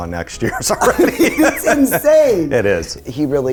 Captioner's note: laughing